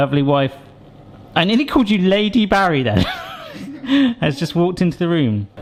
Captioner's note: laughs